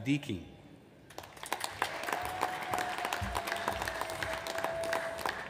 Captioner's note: audience applauds